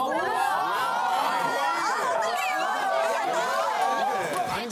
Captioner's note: chaotic and noisy classroom